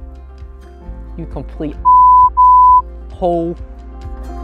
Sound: beep, beep

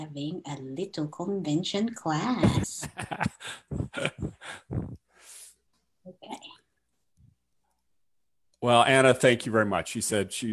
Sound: laughs

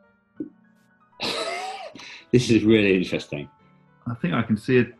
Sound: sniggering

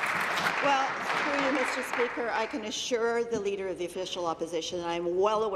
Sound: applause

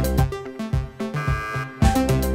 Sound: buzzer sound

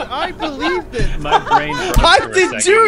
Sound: laughs

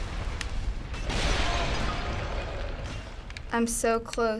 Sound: in game: crashing

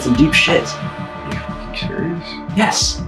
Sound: quietly

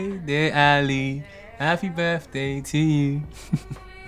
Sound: chuckles

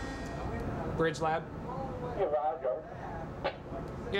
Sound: speaking into walkie-talkie

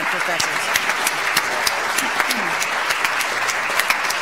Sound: audience applauds

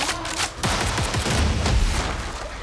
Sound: gunfire

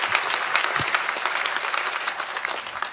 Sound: applause

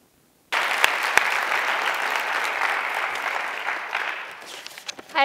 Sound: applause

